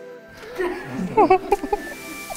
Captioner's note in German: Alle lachen